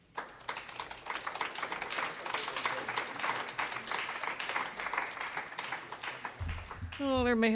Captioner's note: applause